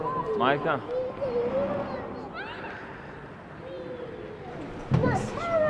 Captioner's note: children speaking in foreign language